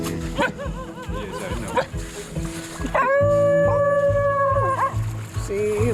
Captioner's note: dogs barking and howling